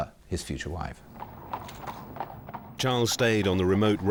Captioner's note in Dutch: paard draaft